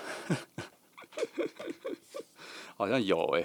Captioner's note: laughing